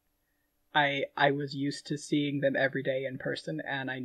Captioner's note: none